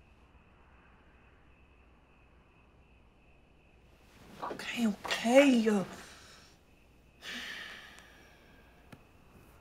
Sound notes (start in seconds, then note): 7.2 sighs